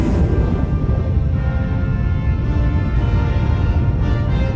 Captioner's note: laser crackles; engine rumbles